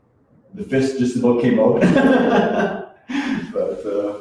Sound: laughs

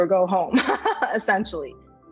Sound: laughs

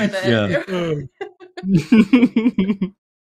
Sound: laughter

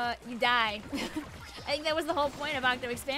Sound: laughs

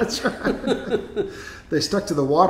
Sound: laughing

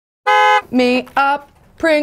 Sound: horn honks

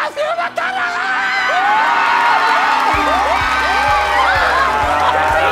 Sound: cheering

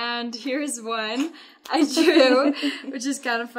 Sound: laughing

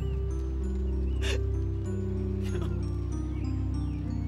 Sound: weeping; harp music

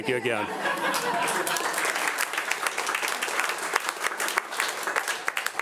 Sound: audience applauding

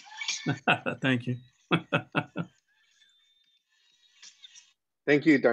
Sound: laughter

